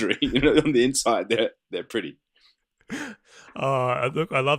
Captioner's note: laughter